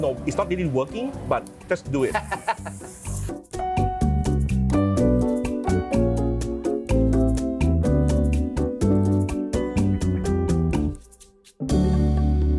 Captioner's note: laughs